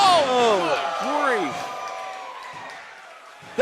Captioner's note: crowd cheers